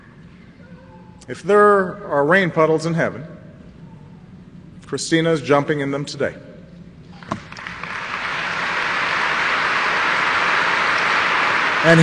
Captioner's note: applause